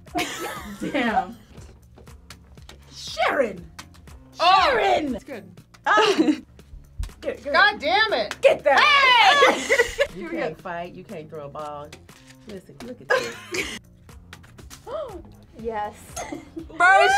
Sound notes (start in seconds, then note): 0.1 both laugh; 9.2 laughs; 13.1 both laugh; 14.8 React gasps; 16.4 laughs